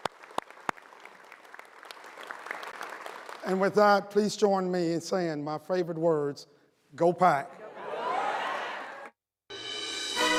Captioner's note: cheering and applause